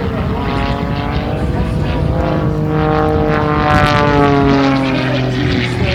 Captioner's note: engine noise